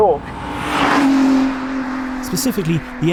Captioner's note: engine revs